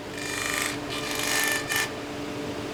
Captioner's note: machine whirring